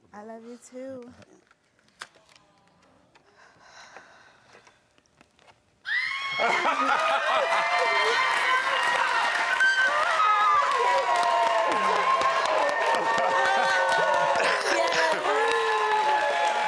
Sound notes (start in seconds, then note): 5.8 audience cheering; 6.2 Karamo laughs